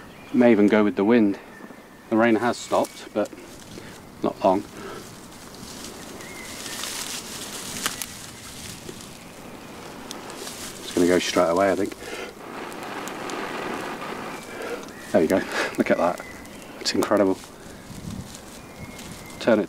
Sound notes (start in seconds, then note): 9.0 gentle blowing; 12.8 harder blowing